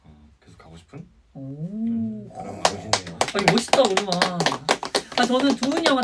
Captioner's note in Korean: 박수